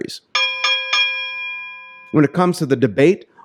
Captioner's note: bell ringing